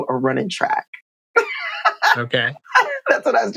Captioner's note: laughter